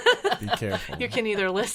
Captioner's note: laughing